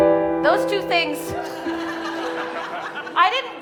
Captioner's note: audience laughing